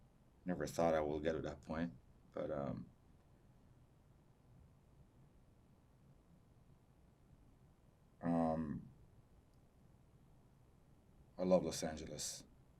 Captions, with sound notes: I never thought I would get to that point, but-- [PAUSES 8 SECONDS] I love Los Angeles.